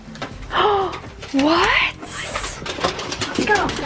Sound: gasps

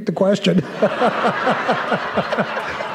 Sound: laughter

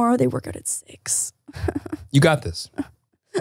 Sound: chuckles; imitating crying

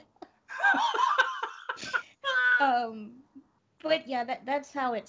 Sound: laughs; both laughing

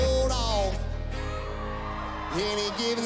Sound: audience cheers

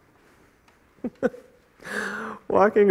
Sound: chuckling

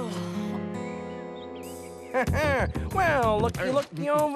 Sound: sighing

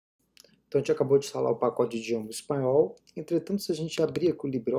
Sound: Spanish

